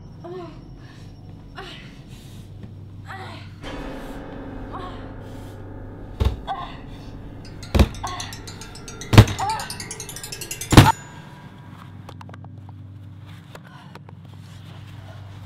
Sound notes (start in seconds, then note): 7.5 banging On The Door